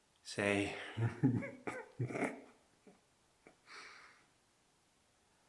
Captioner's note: Jacob laughing